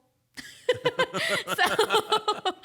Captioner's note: both laughing